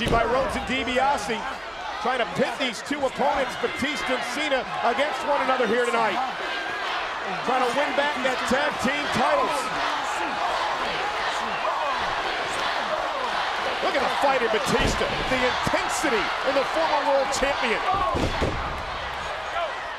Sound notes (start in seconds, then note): 10.2 crowd chanting